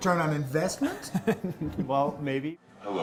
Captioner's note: laughter